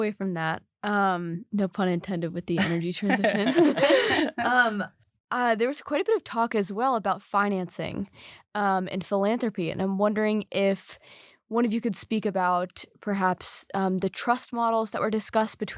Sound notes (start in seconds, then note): 3.0 laugh